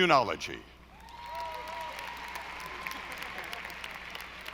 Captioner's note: audience applauding